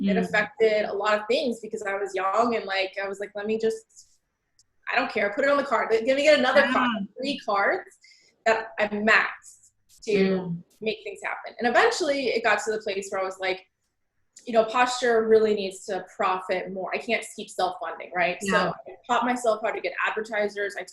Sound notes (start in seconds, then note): 7.5 voice muffled